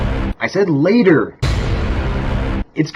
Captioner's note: duuuuuuuuuunnn